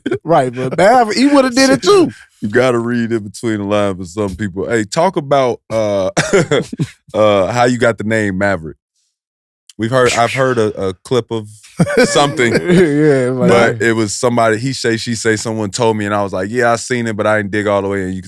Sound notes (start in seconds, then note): 6.1 chuckles